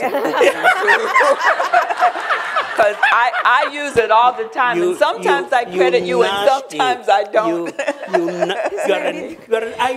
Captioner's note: laughter